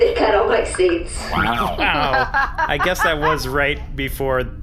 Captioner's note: laughs